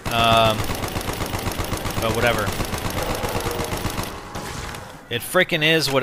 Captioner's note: gunfire